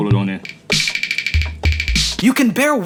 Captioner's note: teeth Chattering Loop Playing